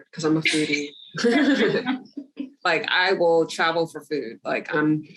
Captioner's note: laughs